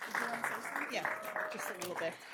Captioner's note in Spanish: Aplausos